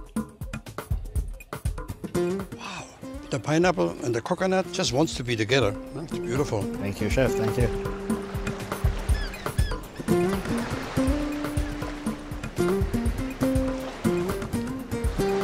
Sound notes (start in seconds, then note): 0.2 up-tempo guitar music; 7.9 up-tempo guitar music; 7.9 waves crash